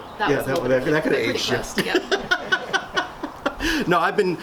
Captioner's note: laughs